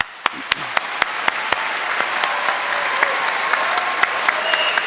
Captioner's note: applause and cheering